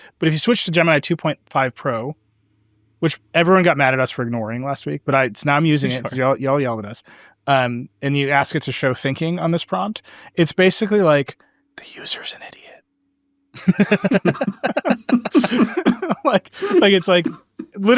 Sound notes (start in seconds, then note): 12.2 whispers; 13.5 everyone laughing